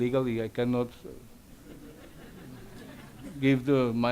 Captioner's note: audience laughs